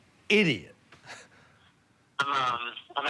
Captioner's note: on phone